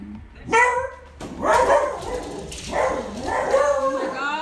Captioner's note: dog barking